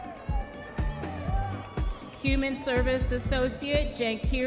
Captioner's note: audience members cheering